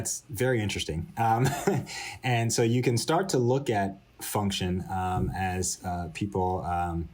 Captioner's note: laughter